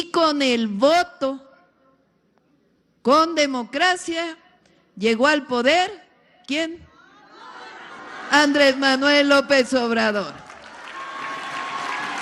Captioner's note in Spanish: aplausos